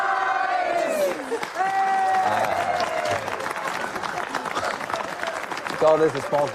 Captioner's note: cheering and applause